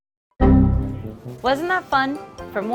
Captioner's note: computer error chime